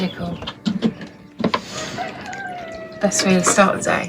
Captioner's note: cockerels